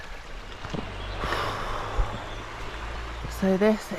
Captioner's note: sigh